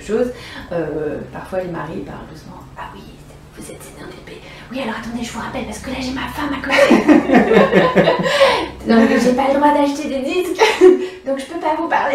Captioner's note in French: rires